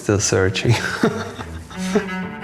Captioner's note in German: lacht